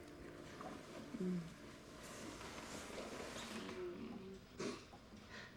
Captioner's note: moaning